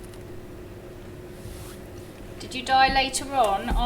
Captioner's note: fabric brushing